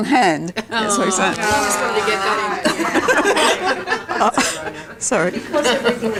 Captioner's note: audience chatter